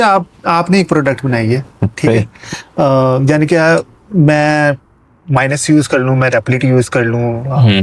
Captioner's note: laughs